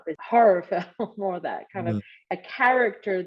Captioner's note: laughter